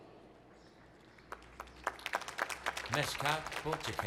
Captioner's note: applause